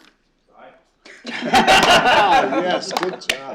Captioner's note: laughter